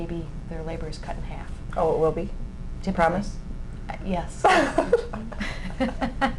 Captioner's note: both laugh